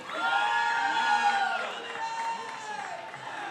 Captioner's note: crowd cheers